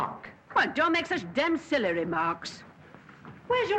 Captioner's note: none